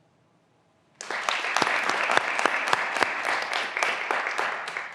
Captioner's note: graduands applauding